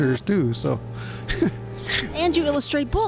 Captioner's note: sniggers